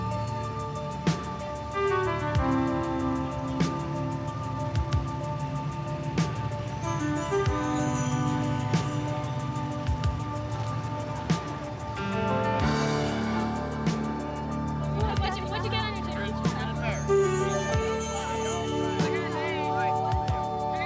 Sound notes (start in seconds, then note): 0.1 engine revving; 10.8 crowd chattering; 14.8 crowd chattering